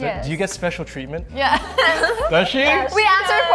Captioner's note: laughs